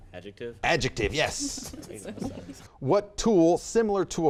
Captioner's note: laughter